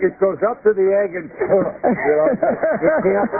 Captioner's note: laughter